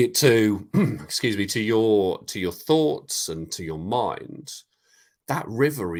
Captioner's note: coughs